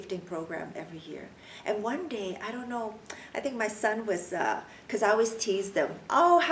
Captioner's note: clicks tongue